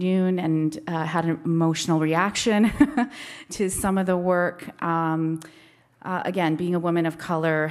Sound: laughs

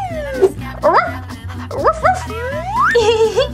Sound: dog barks

